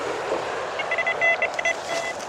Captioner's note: bite alarm bleeps